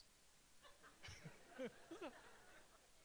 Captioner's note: laughter